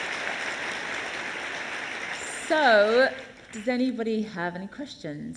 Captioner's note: applause